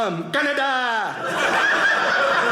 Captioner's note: audience laughing